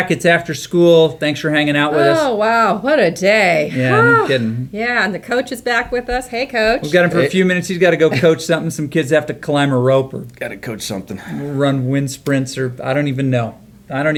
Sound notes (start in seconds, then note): 3.7 exaggerated sigh